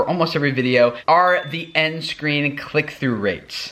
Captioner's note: pinging